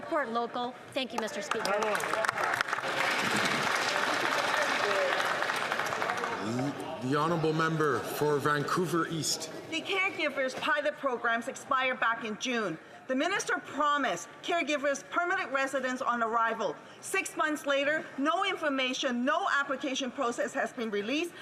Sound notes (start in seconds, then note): 7.8 some Applause